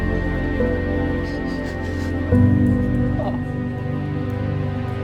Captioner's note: crying